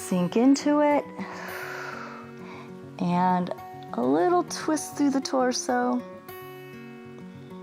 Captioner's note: inhales; exhales